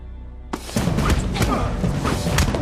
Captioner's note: groaning